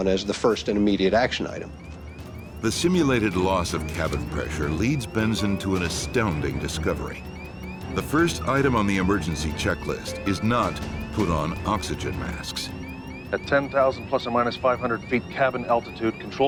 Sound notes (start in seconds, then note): 2.7 voiceover